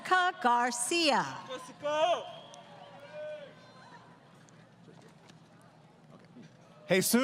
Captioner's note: crowd Cheering